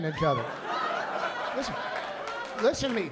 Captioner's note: laughter